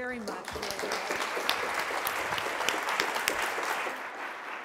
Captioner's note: applause